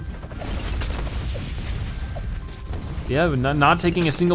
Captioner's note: weapons firing